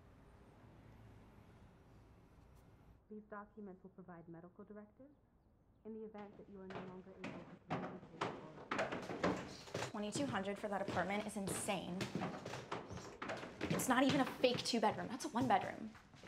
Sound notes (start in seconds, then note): 7.6 footsteps thudding